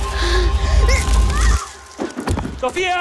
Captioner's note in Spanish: Grito